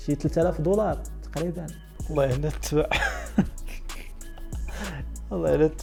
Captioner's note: laughing